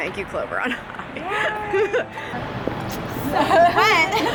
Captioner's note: laughing